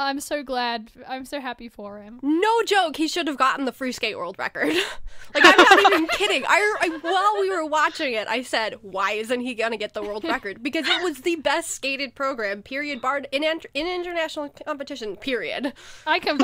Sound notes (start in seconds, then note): 5.3 hosts laugh